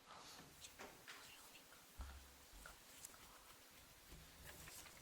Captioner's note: team whispering